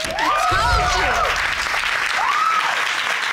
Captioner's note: audience cheering